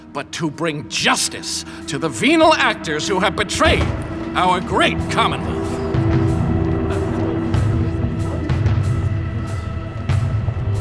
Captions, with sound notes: but to bring justice to the venal actors who have betrayed (door clicks) our great commonwealth! (gripping music continues)